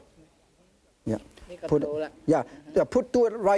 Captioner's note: speaking in foreign language